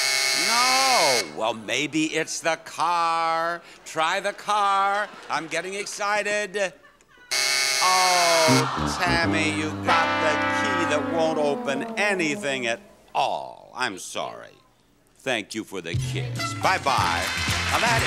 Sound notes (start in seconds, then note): 0.0 buzzing; 7.1 buzzing